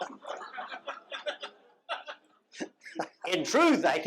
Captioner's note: laughter